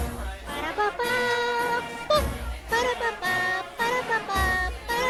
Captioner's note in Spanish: Tarareando